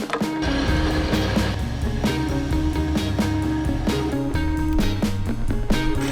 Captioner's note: drilling; upbeat music